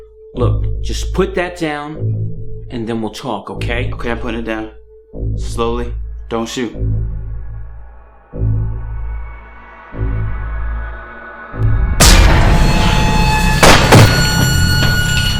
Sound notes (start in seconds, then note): 13.6 two gunshots